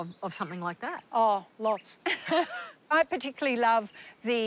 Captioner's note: laughs